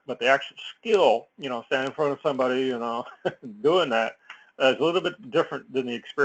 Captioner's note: laugh